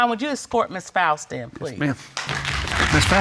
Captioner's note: audience applauding